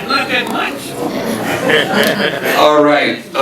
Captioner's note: audience laughing